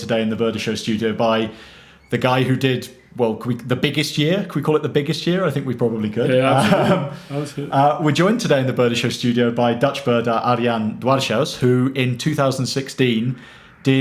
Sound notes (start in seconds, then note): 6.2 laughs